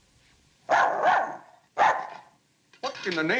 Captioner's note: dog barks